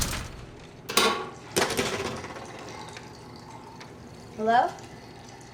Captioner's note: door thuds; water trickling